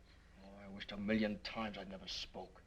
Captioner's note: none